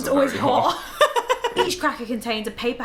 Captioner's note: both laugh